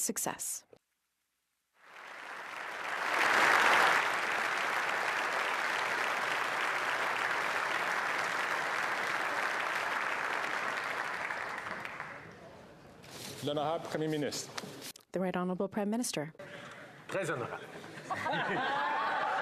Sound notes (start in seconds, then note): 4.2 applause